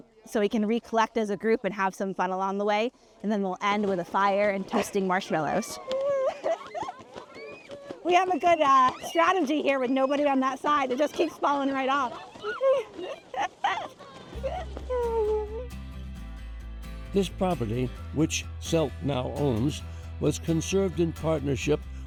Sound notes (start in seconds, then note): 4.7 children laugh; 12.1 tarp flaps; 12.1 chuckling